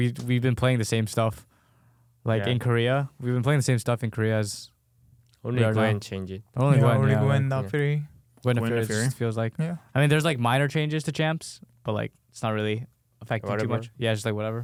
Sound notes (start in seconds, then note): 5.1 whispers; 13.5 laughs